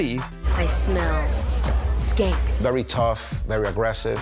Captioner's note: sniffs